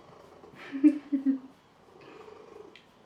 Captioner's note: giggles